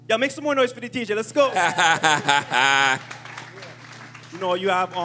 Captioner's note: laughter, applause